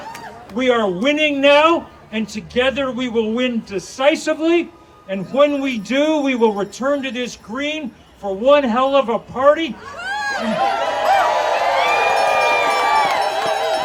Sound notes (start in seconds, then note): 10.1 audience cheering